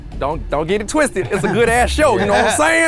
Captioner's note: guys laugh